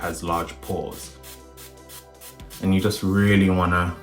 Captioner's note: toner spraying